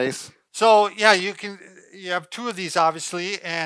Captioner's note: laughing